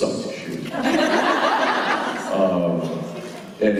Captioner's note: laughter